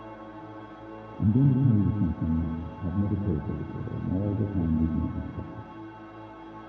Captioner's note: administrator's voice muffled